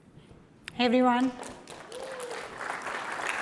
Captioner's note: applause